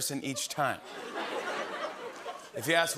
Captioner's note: laughter